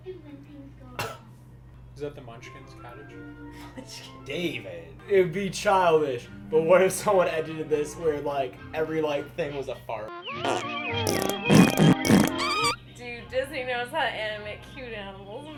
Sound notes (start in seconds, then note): 11.0 ridiculous fart noises